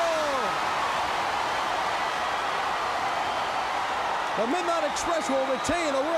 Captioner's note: crowd cheering